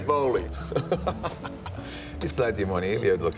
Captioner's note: Sheamus laughs